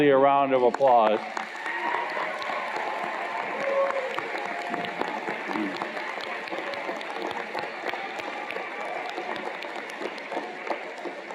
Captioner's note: cheers and Applause